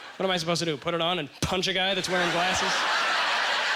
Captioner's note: audience laughter